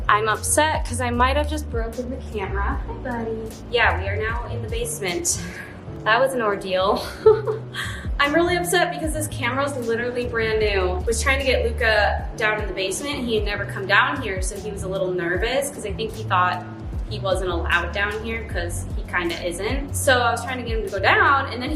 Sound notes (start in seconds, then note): 7.0 chuckles